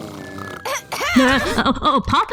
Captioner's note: ahem